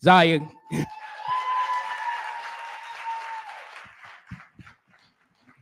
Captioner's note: cheering